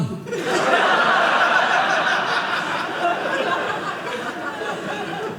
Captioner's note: audience laughing